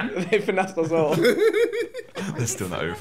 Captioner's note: KSI laughing